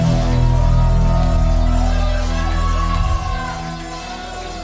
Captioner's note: audience cheering